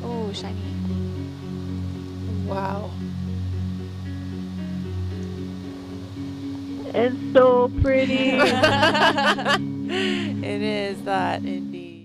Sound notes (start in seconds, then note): 8.0 all laughing